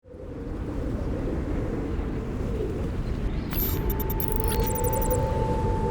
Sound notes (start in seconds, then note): 0.7 wind blowing